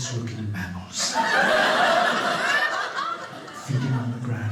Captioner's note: audience laughing